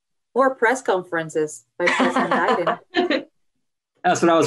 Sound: laughs

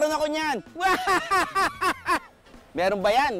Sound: laughs hard

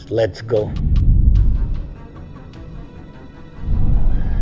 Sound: scene whooshing

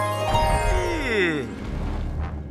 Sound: yawning

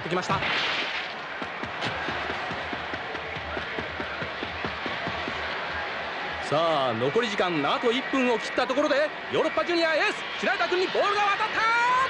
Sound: applause

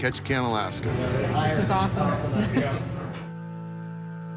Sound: laughs

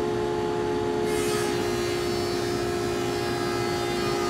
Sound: saw zings

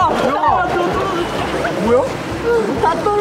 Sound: gurgling

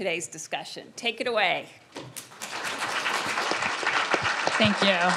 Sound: audience applauding

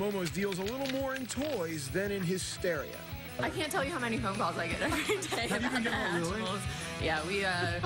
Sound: laughter

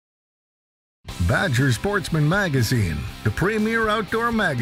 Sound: voiceover

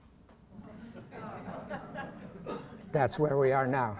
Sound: laughter

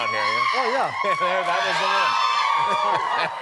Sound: cheering

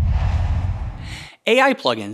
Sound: logo swooshes

